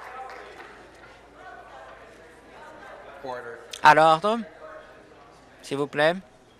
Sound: applause

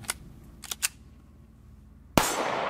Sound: gun cocks; gun fires

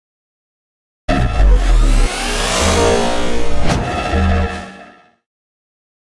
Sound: sound of morph

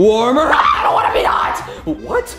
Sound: yells

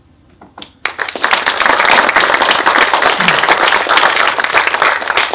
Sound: audience applauds

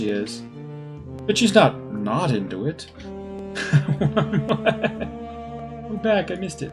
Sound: laughs

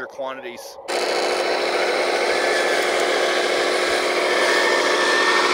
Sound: bulldozer engine revving

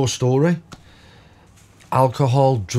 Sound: silence

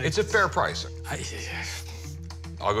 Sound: sighs

